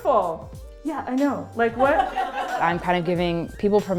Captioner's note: laughter